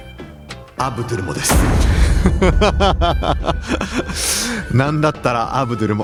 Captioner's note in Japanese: 笑い